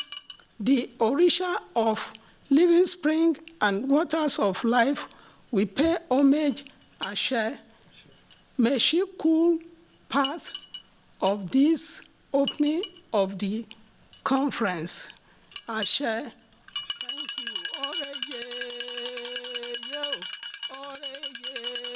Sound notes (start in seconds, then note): 6.7 non-english; 15.3 non-english; 16.4 non-english singing; 16.6 clanging